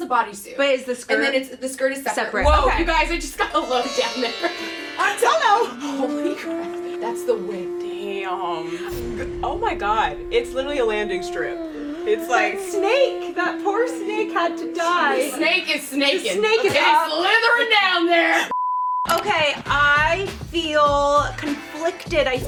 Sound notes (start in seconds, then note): 18.5 beep